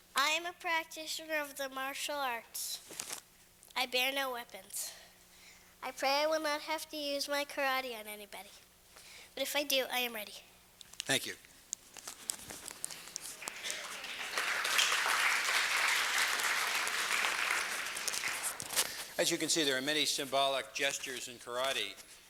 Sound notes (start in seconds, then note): 13.2 applause